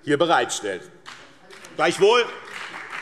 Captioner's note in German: Beifall BÜNDNIS 90/DIE GRÜNEN und CDU